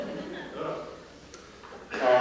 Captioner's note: laughter